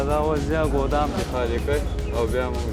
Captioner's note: foreign language